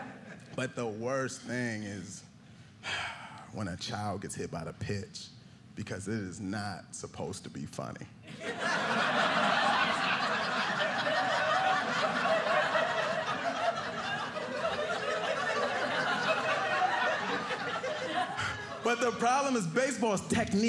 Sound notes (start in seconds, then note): 8.2 laughter